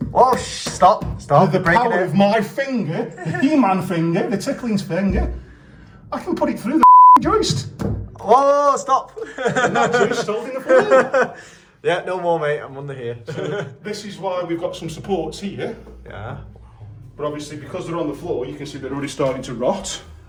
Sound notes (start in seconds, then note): 9.1 laughter